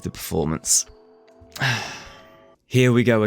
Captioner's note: sigh